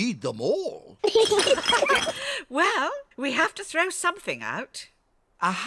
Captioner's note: all laugh